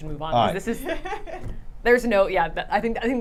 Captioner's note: thumps desk